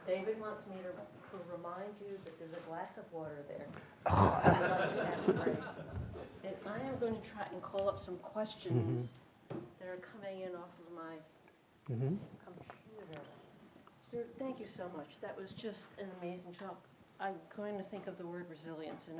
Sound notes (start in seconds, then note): 4.0 clears throat; 4.1 attendees laughing